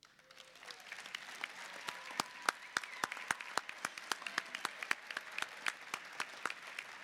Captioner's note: applause